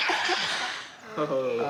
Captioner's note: laughter